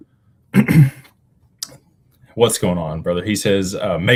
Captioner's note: clears throat